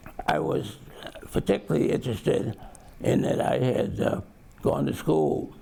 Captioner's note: none